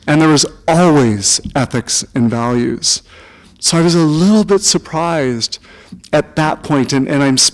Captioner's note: none